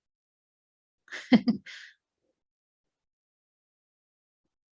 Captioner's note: laughs